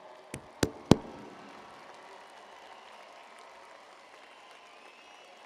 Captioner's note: cheers and applause